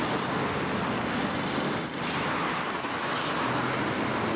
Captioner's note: brakes squeaking